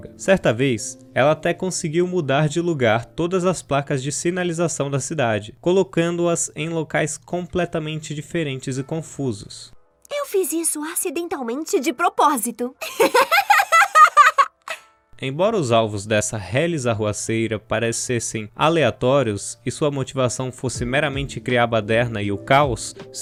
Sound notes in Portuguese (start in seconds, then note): 12.8 risos